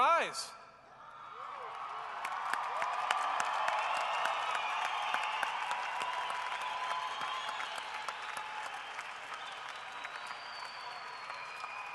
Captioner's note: cheering and applause